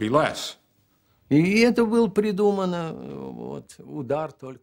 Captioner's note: speaking Russian